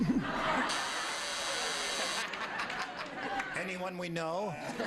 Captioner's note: laughing; buzzing